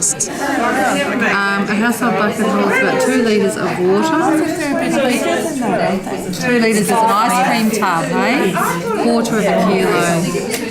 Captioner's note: audience chatter